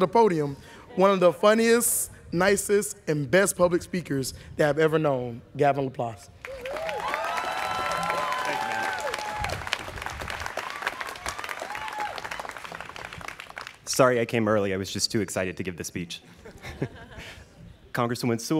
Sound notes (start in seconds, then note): 6.4 students cheering